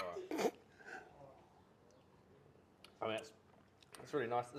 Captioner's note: snickers